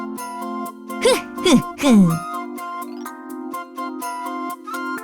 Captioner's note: coughs